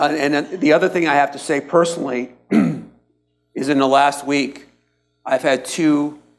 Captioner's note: coughs